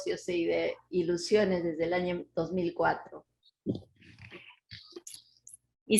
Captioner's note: speaking Spanish